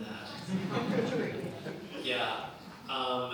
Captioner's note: laughter